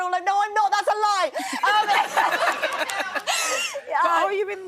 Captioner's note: laughing